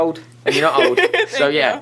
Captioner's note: Sydney laughs